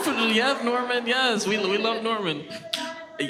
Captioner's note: audience laughs